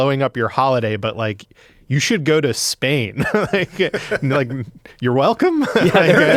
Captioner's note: laughs